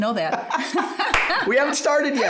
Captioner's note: laughs; claps